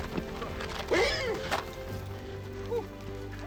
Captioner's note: horse neighs